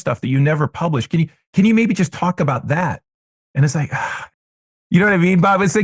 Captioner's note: sigh